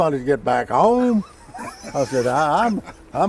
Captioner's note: host laughing